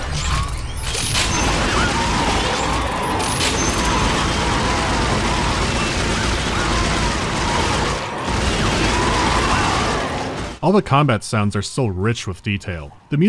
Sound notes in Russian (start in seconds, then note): 0.0 жужжание циркулярной пилы и хруст отрубаемых конечностей; 0.7 крики некроморфов, беглый огонь и звуки рикошетящих пуль